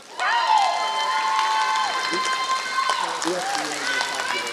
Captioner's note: applause